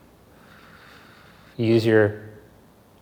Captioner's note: exhales softly